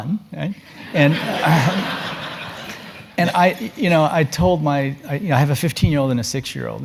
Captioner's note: laugh